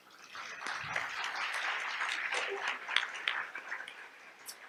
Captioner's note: audience applauds